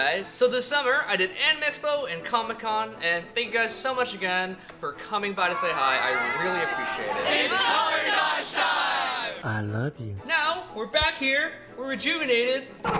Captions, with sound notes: So this summer I did Anime Expo and Comic-Con and thank you guys so much again, for coming by to say hi, I really appreciate it. [Crowd] It's color dodge time! Now we're back here, we're rejuvenated...